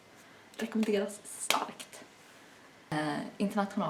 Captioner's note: slap slap